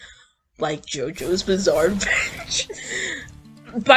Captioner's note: wheeze